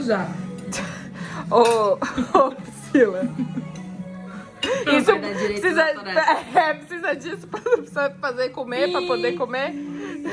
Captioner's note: laughs